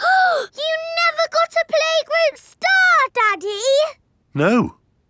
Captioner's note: gasps